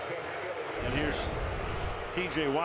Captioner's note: pa announcement